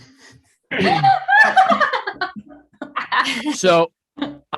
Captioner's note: group laughing